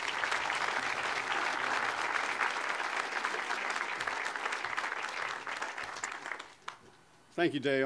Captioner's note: audience applause